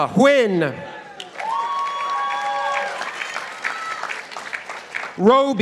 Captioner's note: participants applauding